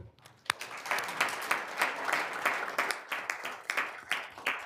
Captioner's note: all applauding